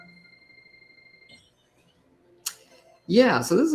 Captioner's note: chirping